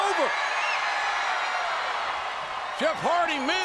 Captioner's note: crowd cheers and whistles